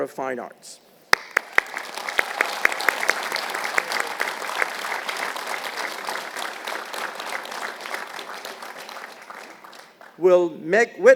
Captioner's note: applause